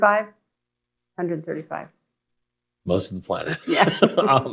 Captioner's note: laughs